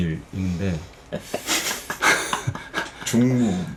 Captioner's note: chuckle